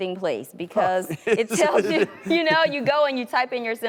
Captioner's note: laughing